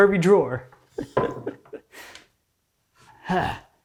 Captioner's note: chuckling; wood on desk clunking